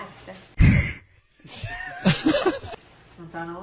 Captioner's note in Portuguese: Risos